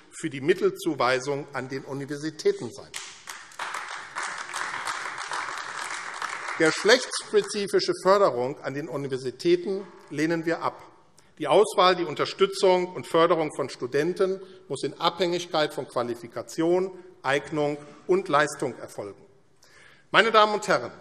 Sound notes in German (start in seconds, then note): 2.9 Beifall AfD